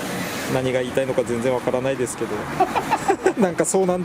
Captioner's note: laughs